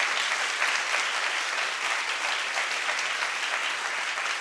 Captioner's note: audience applauding